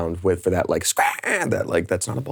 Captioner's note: host screeching